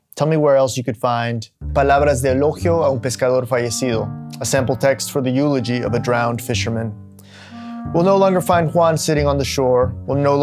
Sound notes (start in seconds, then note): 1.5 speaking Spanish